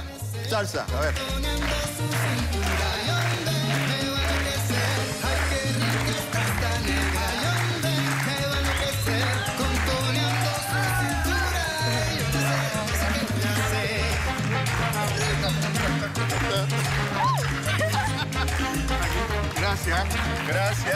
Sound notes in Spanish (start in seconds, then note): 9.0 Palmadas al compás